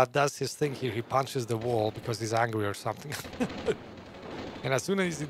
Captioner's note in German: lacht